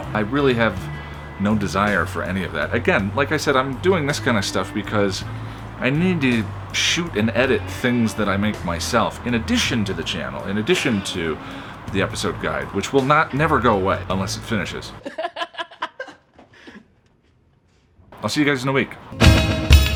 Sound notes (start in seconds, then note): 14.9 laughs